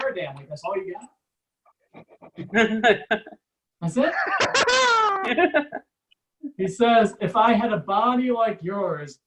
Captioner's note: audience Laughs